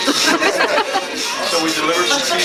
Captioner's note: everyone laughs